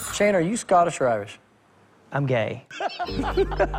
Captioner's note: laughter